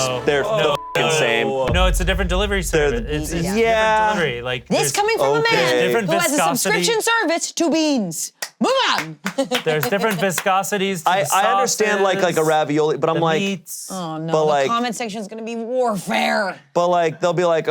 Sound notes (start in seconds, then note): 9.1 laughs